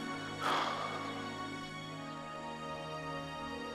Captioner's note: sighs